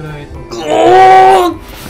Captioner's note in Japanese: 怪獣の声